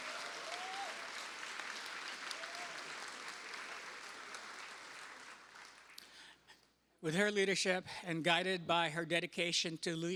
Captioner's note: cheers and applause